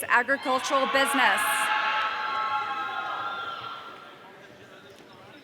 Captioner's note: audience cheering